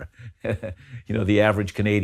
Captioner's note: laughs